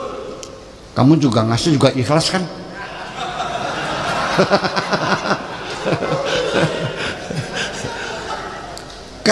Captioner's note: laughs